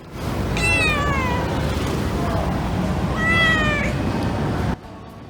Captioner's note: meows